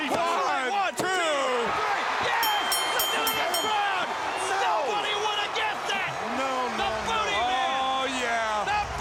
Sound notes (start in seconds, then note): 2.3 bell rings; 2.9 crowd cheering